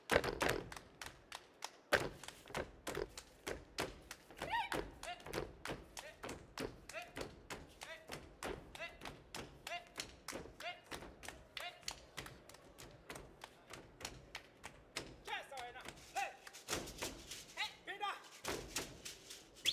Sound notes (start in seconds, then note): 0.3 hands clapping and feet stomping; 5.9 hands clapping and feet stomping; 11.4 hands clapping and feet stomping; 15.2 shouting and feet stomping